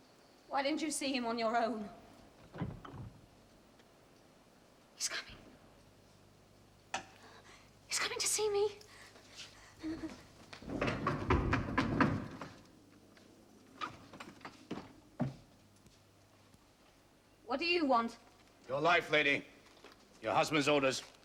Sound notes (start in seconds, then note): 2.5 door clinks; 10.6 knocking